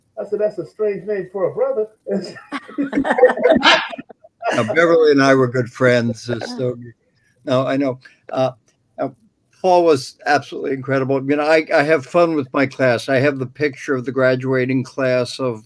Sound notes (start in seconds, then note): 2.1 all laughing